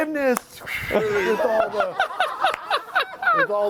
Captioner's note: laughter